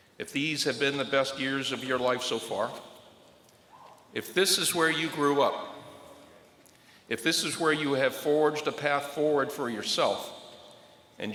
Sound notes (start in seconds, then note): none